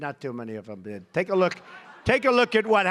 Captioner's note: laughter